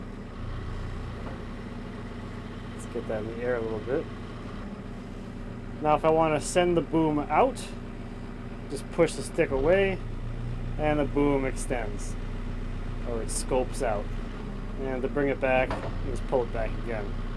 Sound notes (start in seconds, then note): none